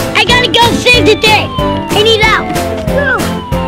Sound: siren

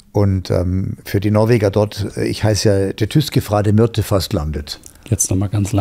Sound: Norwegian spoken audio

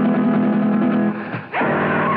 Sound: scream

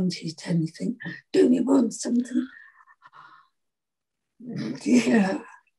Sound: scoffs

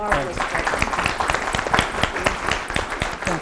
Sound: applause

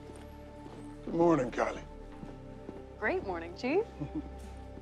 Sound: chuckles

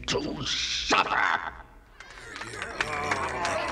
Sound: cheering

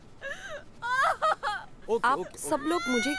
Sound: crying

